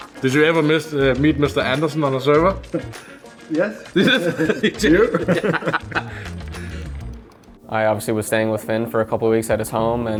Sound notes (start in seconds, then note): 3.9 chuckling; 3.9 players chuckling